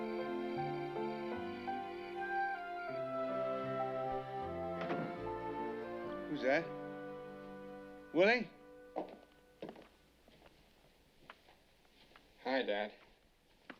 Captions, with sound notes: [ Door Closes ] Who's that? Willie?